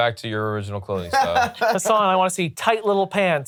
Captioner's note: laughs